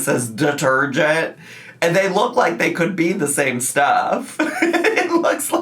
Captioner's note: laughs